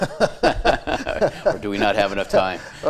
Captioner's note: both laughing